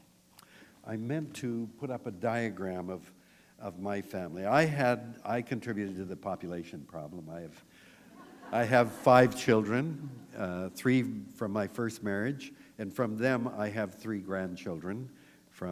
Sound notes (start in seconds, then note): 8.1 laughter